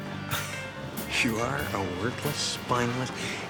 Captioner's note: grunting